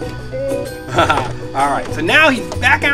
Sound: laughs

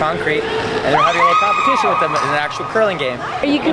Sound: woman yells: woo, hoo!

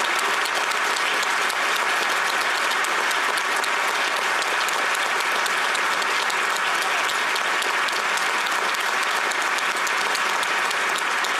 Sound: applause

